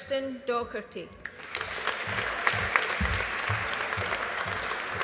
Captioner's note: audience applauding